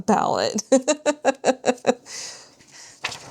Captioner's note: laughs